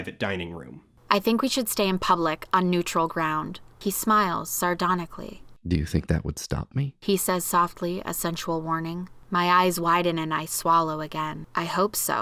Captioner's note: reading aloud from the novel